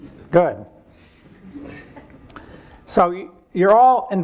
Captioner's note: audience chuckling